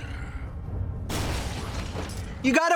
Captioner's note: louder crash